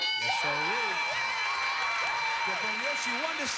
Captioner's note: cheers and applause